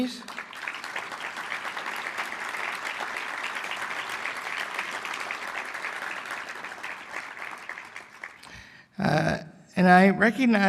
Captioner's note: applause